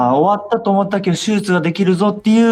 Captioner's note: excited